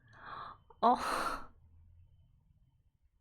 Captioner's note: exhales